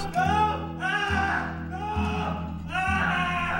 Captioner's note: screaming